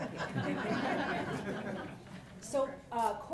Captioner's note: audience laughs